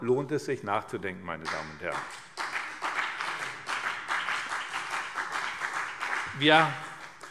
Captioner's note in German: Beifall BÜNDNIS 90/DIE GRÜNEN und vereinzelt CDU